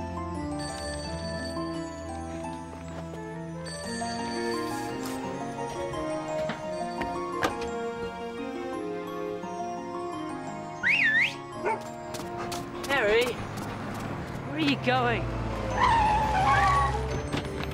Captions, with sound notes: (phone ringing) (whistling) (Harry barking) - Harry? Where are you going?